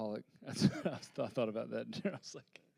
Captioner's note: laughing